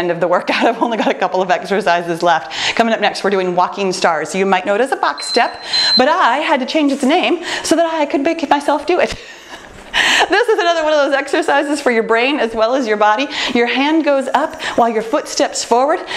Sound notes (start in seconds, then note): 5.1 timer beeps